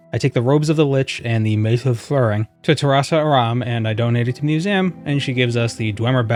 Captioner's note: slurring